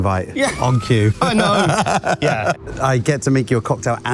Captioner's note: laughs